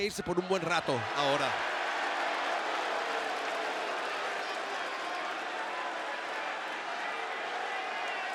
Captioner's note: applause